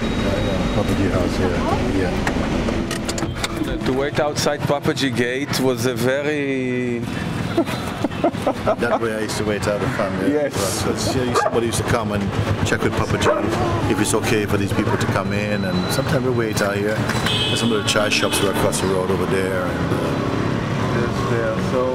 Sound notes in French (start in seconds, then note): 7.4 rires